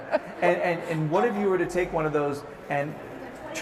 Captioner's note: laughs